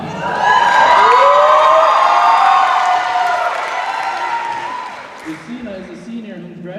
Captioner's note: cheering